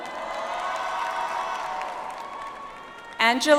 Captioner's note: audience applauds